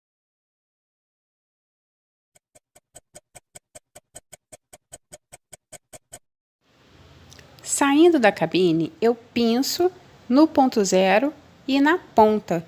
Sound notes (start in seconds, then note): 2.6 laugh